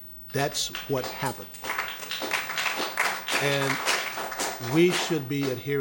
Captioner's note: applause